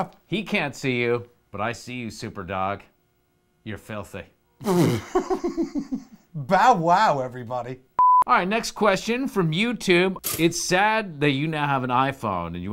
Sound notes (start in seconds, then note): 4.6 laughs; 8.0 test card beeps